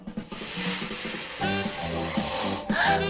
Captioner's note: leaves rustling; both gasp softly